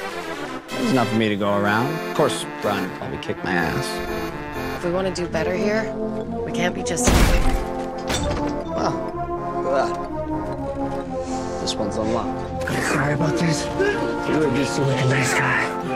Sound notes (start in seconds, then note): 7.0 Murphy kicks open door